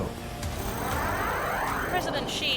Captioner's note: space machine passes